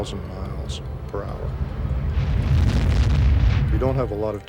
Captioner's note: explosion